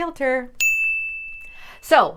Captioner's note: bell dinging